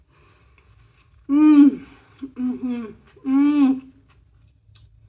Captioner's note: happy mouth noises